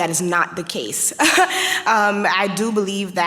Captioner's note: chuckles